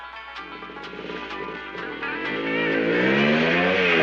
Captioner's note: motorcycle approaching